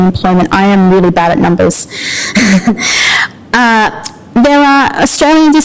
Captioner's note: laughter